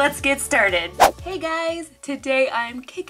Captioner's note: air whooshing